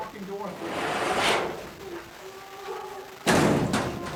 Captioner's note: door banging